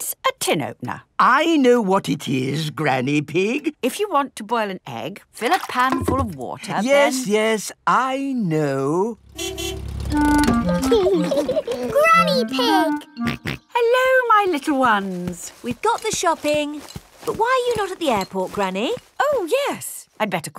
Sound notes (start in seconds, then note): 9.2 car honking; 10.7 laughing; 13.2 snorts